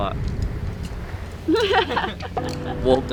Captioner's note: laughter